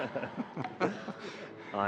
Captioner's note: laughter